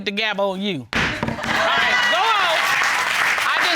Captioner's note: applause